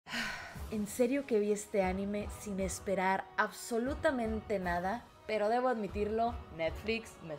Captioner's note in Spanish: Suspira